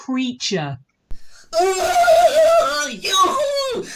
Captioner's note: feral screeching